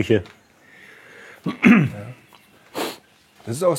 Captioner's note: clears throat